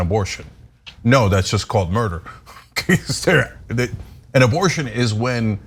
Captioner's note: laugh